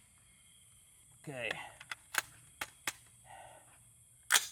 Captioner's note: clicking